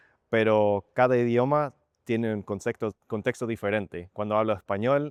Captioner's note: in Spanish